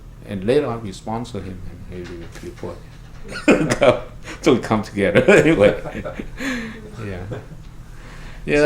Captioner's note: laughs